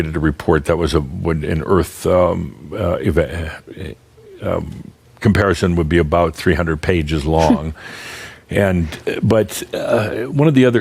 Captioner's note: softly chuckles